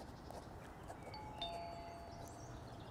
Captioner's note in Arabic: رنين جرس الباب